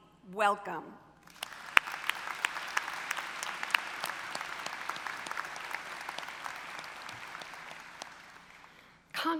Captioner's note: applause